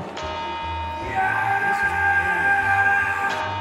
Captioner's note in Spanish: grita